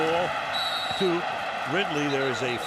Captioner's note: whistle blows